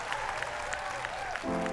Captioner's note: cheers and applause